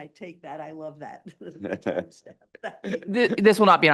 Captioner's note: laughs